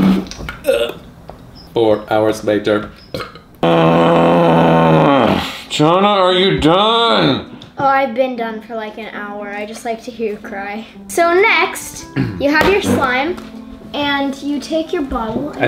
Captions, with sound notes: Four hours later. (groans) - Johnna, are you done? - I've been done for like an hour, I just like to hear you cry. So next you have your slime, and you take your bottle.